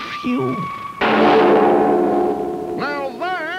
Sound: siren, then a clank

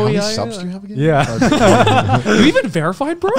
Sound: group laughs

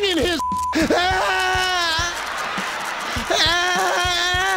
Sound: beep; crying

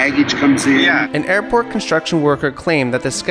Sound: voiceover

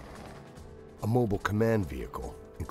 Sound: voiceover

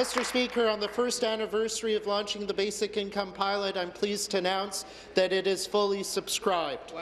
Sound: some Applause

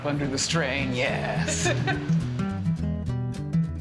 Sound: laughter

